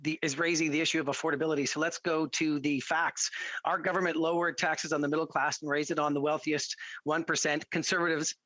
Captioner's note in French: voix de l'interprète